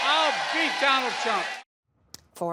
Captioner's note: cheering and applause